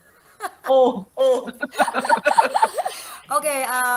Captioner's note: both laughing; laugh